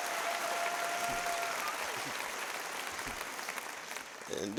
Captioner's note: applause